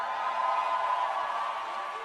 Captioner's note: cheers and applause